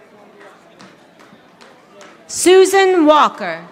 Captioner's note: audience applauding